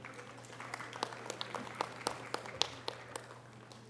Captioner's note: audience applause